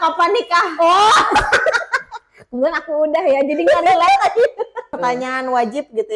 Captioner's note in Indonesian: tertawa